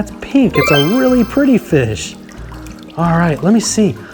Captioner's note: chimes ringing